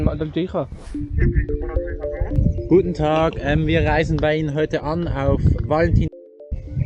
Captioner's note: on the phone